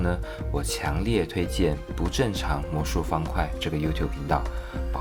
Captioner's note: in Mandarin